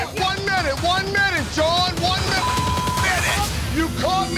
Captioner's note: beep